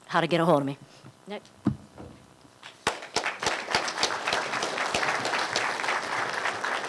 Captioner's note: applause